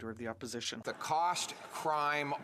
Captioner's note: speaking French